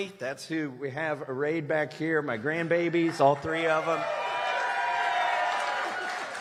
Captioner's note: cheers and applause